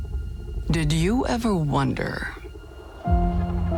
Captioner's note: ominous music; voiceover